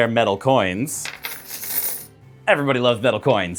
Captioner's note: satisfying metal coin noises